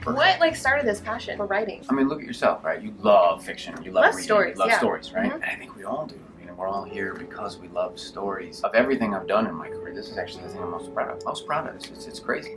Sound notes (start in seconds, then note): none